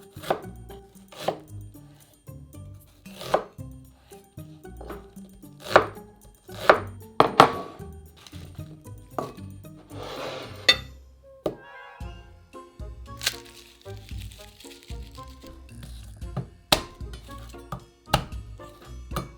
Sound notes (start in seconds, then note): 13.2 garlic paper rustling